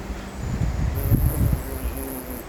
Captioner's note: blows a raspberry